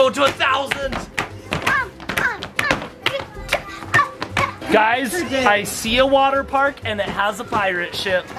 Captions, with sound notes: - Go to a thousand. (feet stomping) Guys, I see a water park and it has a pirate ship.